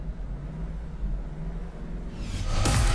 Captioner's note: engine roaring